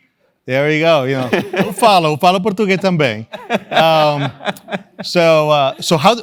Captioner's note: laugh